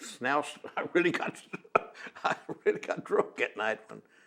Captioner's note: laughs